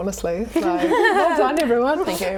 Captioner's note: laughing